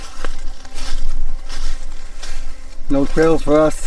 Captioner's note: leaves crunching